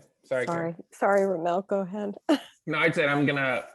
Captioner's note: laughing